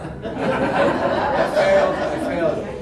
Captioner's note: audience laughs